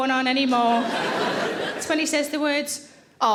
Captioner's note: audience laughing